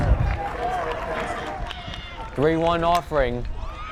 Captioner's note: crowd cheering and clapping